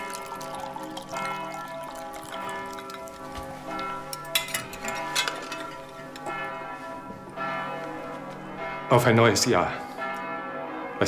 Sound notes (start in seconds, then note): 3.2 church bells ring